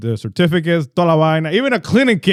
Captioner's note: speaking In Foreign Language